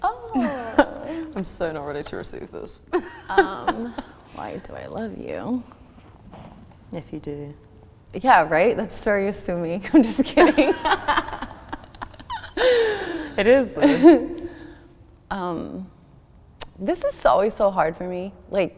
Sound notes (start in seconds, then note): 0.0 laughs; 3.9 laughs; 10.3 both laughing